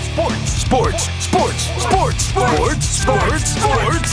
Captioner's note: everyone chanting